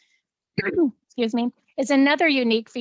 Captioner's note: clears throat